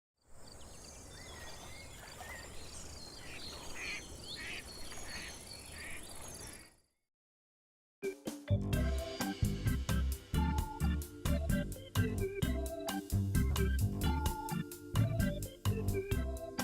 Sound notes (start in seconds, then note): 0.4 birds chirping; 4.3 ducks quacking